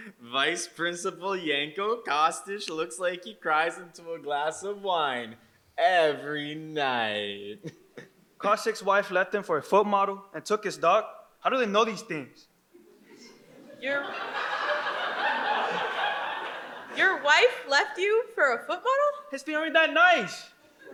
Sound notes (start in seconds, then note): 12.8 audience laughs